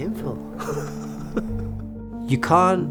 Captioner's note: laughs